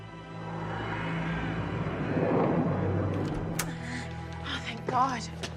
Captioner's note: jet engine roars